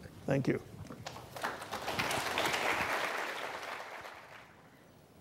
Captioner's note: audience applauding